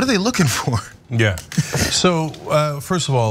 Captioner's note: laugh